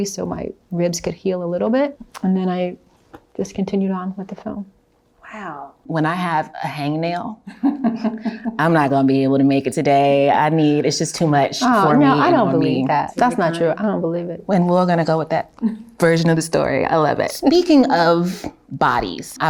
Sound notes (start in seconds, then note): 7.5 Halle chuckles